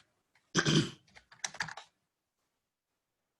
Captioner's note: grunts